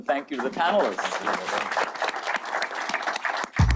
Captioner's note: clapping